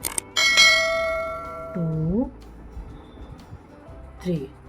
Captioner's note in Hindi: घंटी की आवाज़